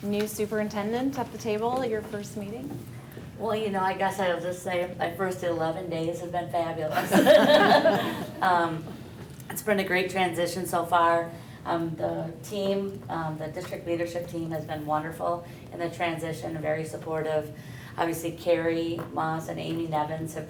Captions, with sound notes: New superintendent at the table at your first meeting? - Well, you know, I guess I'll just my first 11 days have been fabulous. (laughter) It's been a great transition so far. The team, the district leadership team, has been wonderful in the transition, very supportive. Obviously Carrie Mauss and Amy Nevins